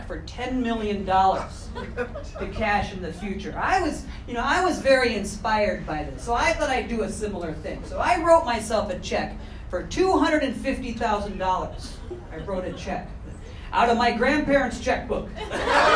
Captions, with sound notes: for $10 million to cash in the future. I was, you know, I was very inspired by this, so I thought I'd do a similar thing. So I wrote myself a check for $250,000. I wrote a check (audience chuckling) out of my grandparents' checkbook.